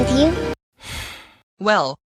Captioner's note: sighs